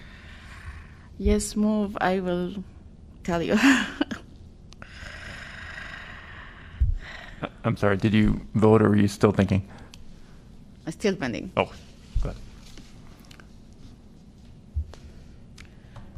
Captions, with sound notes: Yes, move. I will tell you. [LAUGHTER] I'm sorry did you vote or are you still thinking? I'm still pending? Oh, sorry.